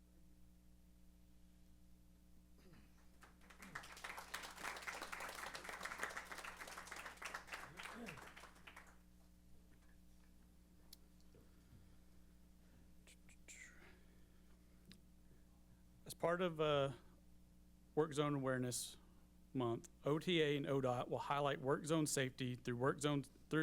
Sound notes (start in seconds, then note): 3.1 applause